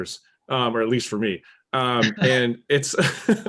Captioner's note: laughing